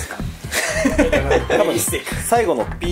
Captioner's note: laughs